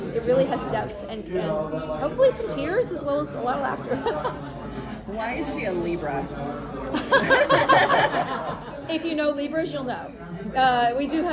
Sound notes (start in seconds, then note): 6.8 laughter